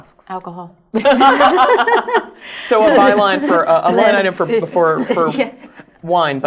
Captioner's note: laugh